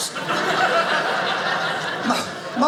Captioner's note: audience laughing